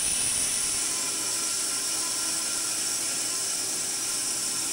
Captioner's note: saw whirring